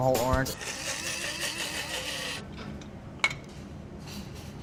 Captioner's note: grinder whirs